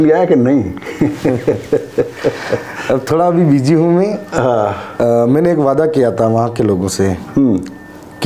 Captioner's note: laughs